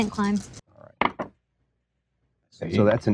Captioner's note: dice rolling